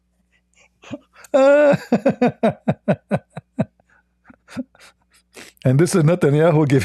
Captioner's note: Ketawa